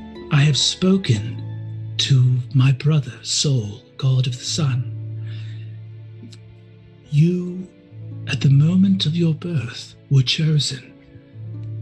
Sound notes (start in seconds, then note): none